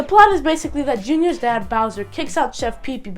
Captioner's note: none